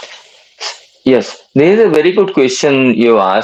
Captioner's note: nasal sound